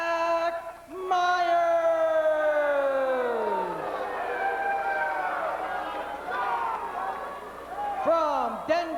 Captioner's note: crowd cheering